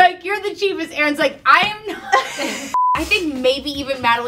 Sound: laughs

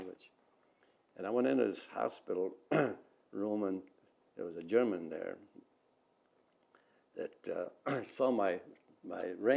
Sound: clears throat

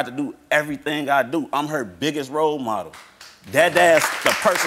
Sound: audience clapping

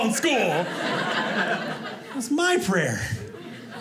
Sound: audience laughing

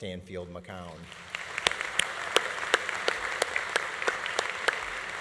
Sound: audience applauding

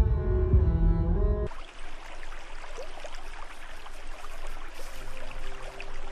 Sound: creek flowing; creek flowing, creepy music

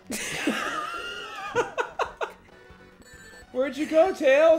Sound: laughing

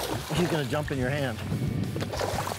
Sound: water splashes

